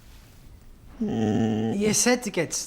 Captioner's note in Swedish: hund stönande